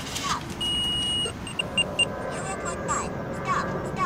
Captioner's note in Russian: Пищит